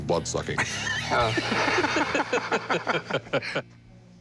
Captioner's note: both laughing